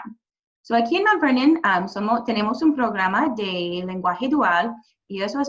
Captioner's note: speaking Spanish